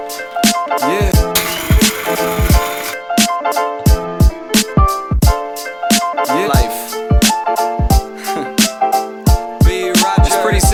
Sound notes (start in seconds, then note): 1.1 grinder whirring; 1.8 mellow music; 7.4 mellow music